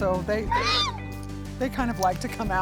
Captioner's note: horse neighing